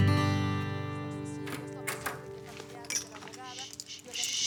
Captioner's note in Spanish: Sonido al abrir la puerta